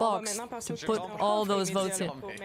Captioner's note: speaking French